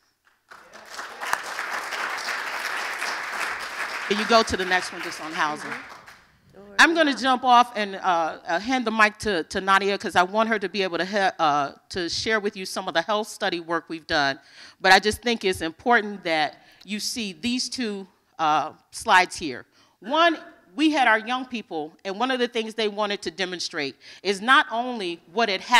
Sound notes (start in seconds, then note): 5.4 applause